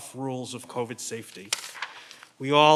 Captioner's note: paper rustling